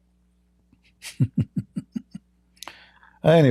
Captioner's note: Ketawa